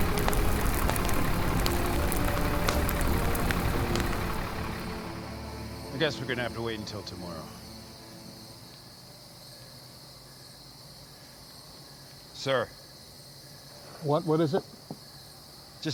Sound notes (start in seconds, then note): 0.2 fire raging; 2.4 gentle music; 3.8 fire raging; 4.9 gentle music; 9.0 insects chirping